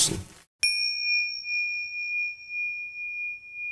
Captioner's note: bell chimes